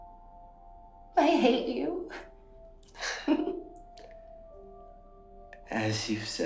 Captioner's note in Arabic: ضحكات خافتة